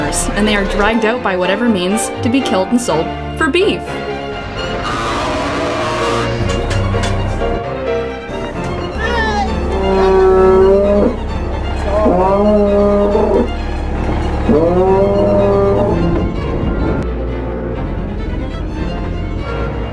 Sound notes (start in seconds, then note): 4.4 корова реве; 8.7 корова реве